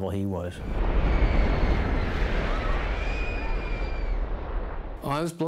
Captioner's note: rumbling sounds and people screaming